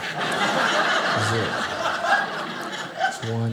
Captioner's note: audience laughing